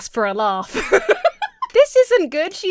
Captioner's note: Emma laughs